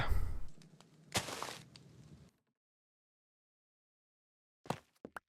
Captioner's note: block Placing Noises